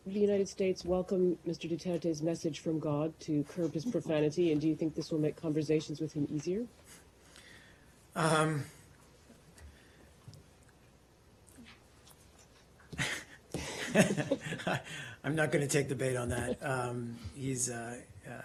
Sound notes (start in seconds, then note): 10.7 laughter